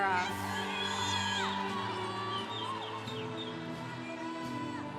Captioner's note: congregation cheering